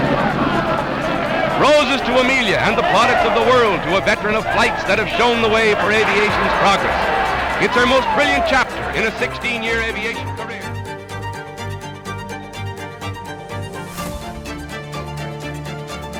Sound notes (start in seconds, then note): 0.8 crowd noise